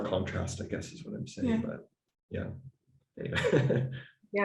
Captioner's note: laughs